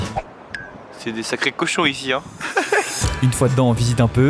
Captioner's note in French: rire